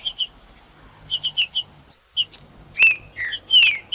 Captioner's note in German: trinca ferro cantando